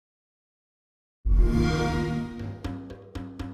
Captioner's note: xbox sound